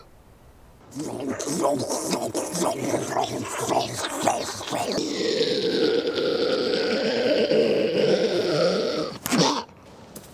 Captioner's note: hyperventilates and gasps; George attempting to swallow and hacking up our poor friend